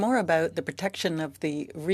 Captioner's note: speaking French